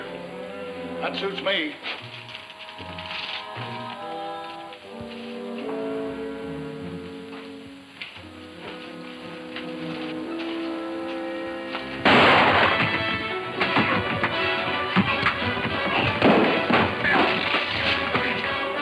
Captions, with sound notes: - That suits me. (gun roars) (dramatic music)